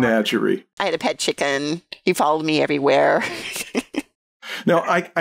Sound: laughter

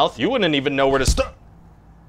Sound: smack

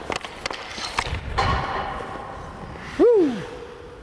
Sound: puck hitting pole

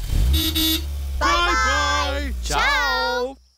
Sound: horn toots

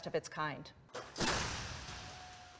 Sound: smashing

